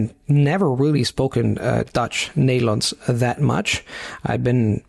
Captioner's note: Nederlands